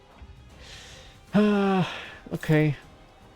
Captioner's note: sigh